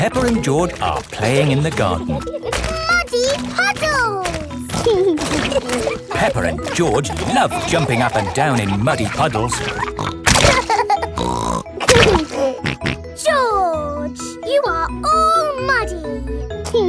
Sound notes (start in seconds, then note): 10.5 laughs and snorts